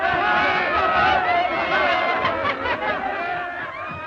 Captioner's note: all laughing